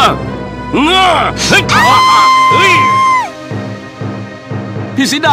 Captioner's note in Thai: ร้อง